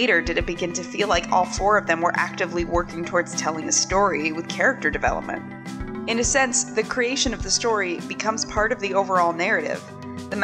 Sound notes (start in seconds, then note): none